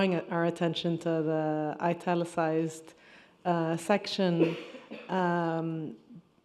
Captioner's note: attendee coughing